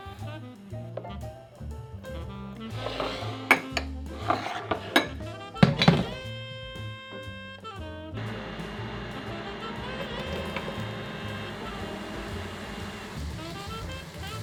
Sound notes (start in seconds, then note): 2.2 whisking; 8.1 burner humming; 12.2 sizzling